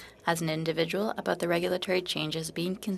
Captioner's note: speaking in French